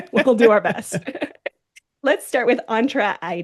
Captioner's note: laughing